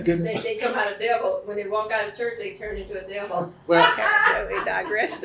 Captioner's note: laughs